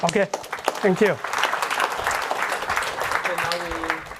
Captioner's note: applause